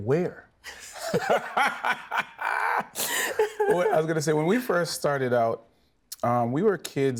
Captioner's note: everyone laughing